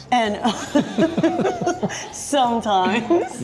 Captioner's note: laughs